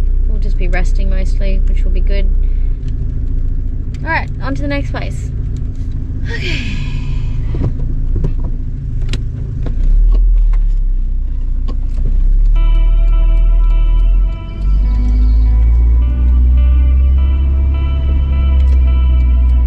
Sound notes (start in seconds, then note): 6.1 with an exhausted sigh; 7.3 gears clunk softly, blinker clicks